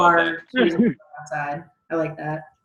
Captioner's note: murmurs